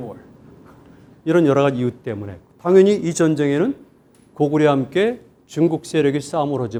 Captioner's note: speaking in Korean